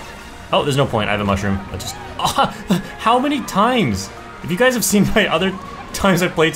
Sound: laughs

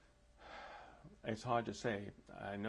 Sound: sighs

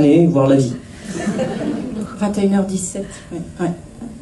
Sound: laughs

